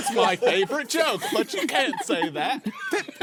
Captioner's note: laughing